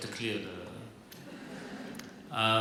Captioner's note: laughter